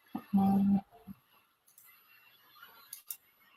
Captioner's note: clicking